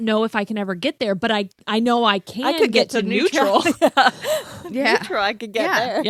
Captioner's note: laughs